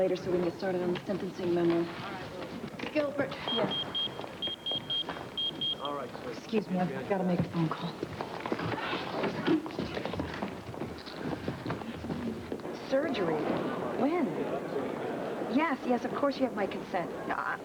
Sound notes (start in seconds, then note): 3.4 beeping